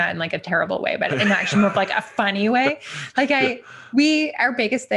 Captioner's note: laughing